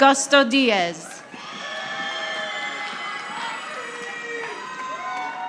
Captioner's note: audience applauding